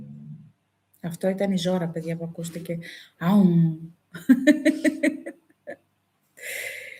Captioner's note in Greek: γέλια